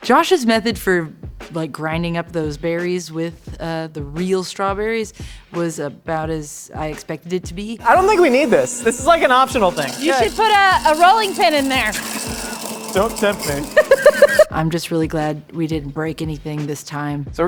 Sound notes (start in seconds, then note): 13.7 laughs